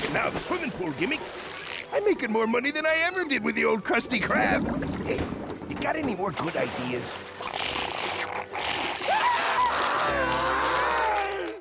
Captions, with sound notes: and now the swimming pool gimmick I'm making more money than I ever did with the old Krusty Krab. Hey, you got any more good ideas? [Screams]